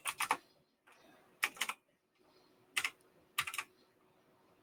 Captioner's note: typing